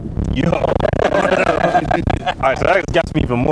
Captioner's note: all laugh